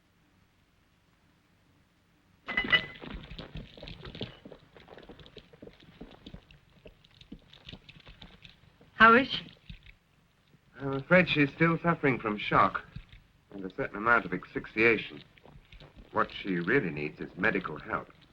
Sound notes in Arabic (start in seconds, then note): 2.5 قعقعة معدنية; 2.6 طقطقة النار